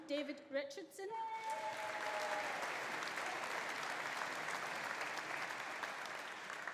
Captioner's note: audience cheering; audience applauding